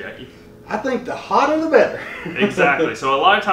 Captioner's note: chuckling